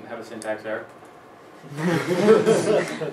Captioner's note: laughs